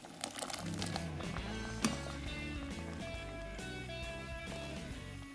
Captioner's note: liquid bubbling